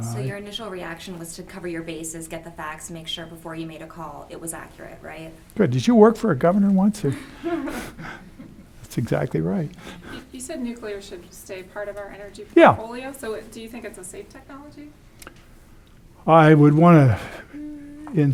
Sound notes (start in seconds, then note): 6.8 laughs